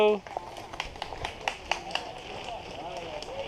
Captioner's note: clapping in background